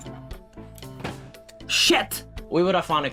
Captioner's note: thud!